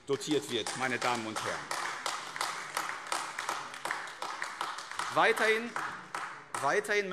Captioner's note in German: Beifall AfD